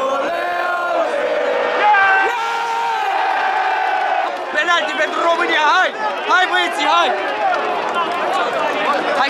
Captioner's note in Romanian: Aplauze